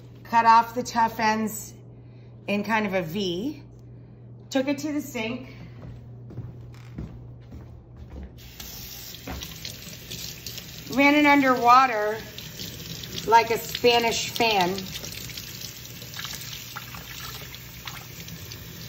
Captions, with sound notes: Cut off the tough ends in kind of a V, took it to the sink, (water splashing) ran it under water like a Spanish fan,